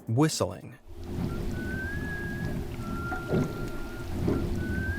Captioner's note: eerie whistling